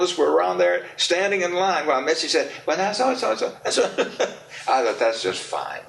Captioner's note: laughs